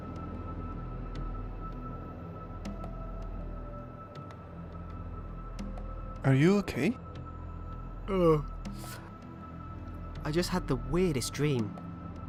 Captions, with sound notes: Are you okay? [Big yawn] I just had the weirdest dream. I